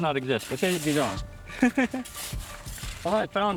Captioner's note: laughs